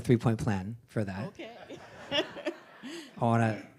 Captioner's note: group laughing